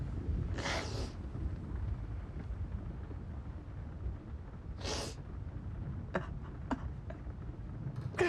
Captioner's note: sniffling